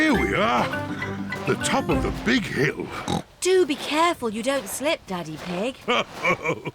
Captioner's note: snorts; chuckles